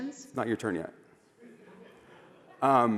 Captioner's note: laughter